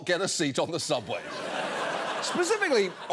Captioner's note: audience laughing